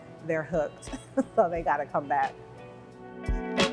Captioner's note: laughs; chill music